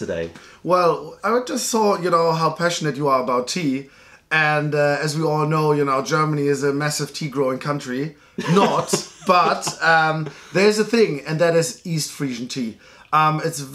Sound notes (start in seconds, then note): 8.4 laughter